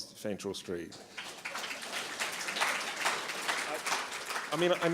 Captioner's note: applause